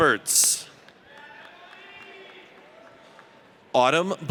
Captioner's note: audience cheers